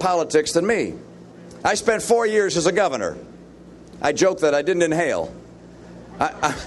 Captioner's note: laughter